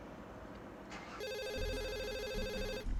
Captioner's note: phone rings